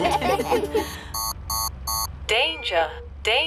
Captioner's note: laughter; beeping